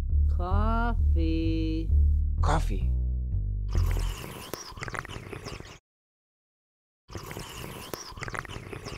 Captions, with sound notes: - Coffee. - Coffee. (slurping)